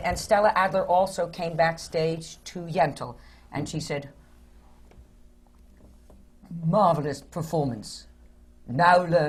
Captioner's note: does the regal voice